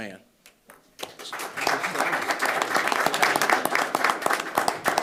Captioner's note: audience applauding